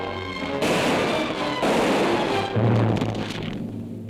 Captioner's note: guns firing